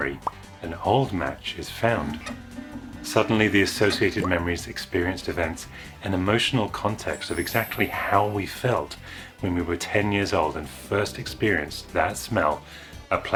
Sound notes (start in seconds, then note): 0.2 pop!; 2.2 computer Machinery Whirring